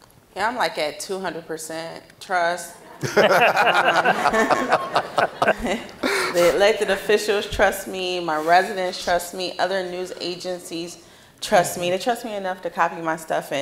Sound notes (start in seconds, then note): 2.8 audience laughing